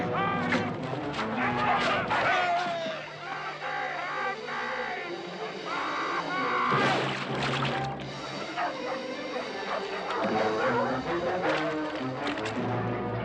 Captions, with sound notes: [yelling] Help me, help me!